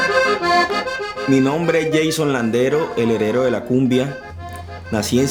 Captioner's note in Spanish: en español